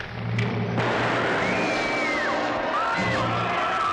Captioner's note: Nellie screams; rifle fires; commotion & screaming; dramatic music